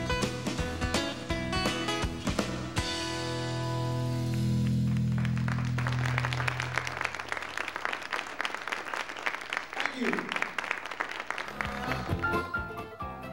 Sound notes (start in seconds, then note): 4.2 audience applauding; 12.2 bright piano music